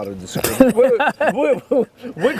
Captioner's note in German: Lachen